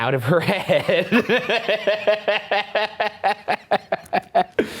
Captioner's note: laughing